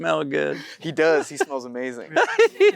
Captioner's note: Matthew laughs